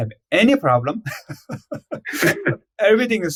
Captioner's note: laughs